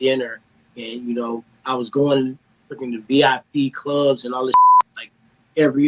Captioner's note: beep